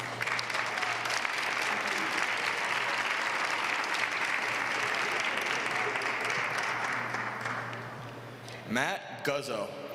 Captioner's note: applause